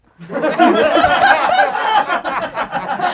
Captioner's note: laughing